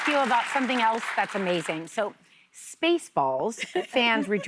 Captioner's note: applause